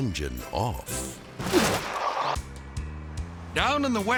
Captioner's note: logo whooshes